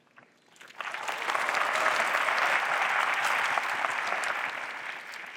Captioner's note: applause